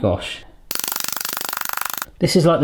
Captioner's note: plastic clattering